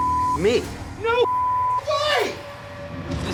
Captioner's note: beep